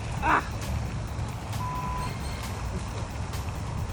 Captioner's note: beep